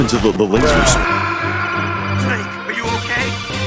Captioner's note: Solid Snake death noise